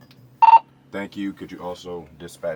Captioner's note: intercom beeps